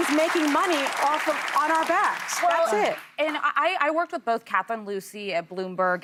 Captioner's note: applause